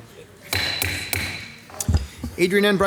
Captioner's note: attendees chattering; gavel pounding